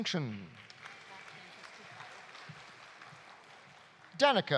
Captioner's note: audience applauding